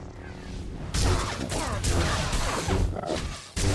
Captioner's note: gunfire